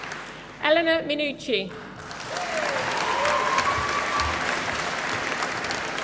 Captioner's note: applause